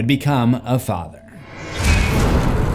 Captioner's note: impact